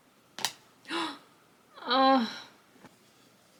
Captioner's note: gasp